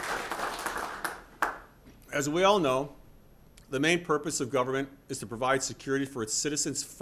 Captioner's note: applause